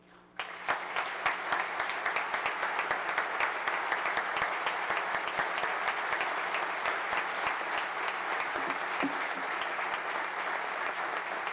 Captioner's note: applause